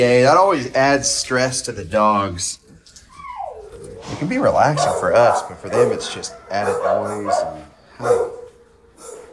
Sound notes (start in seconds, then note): 4.1 dogs barking